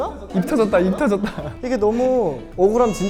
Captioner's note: haha